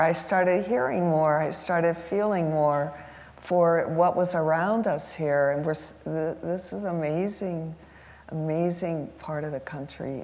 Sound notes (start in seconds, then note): none